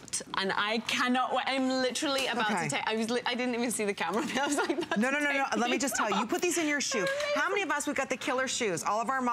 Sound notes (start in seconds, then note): 4.2 laughter